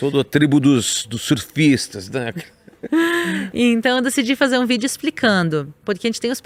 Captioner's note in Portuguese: risadas; suspirando